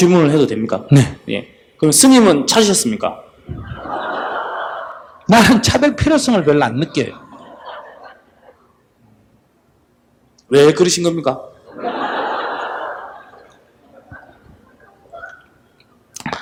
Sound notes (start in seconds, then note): 3.5 audience Laughter; 11.7 audience Laughter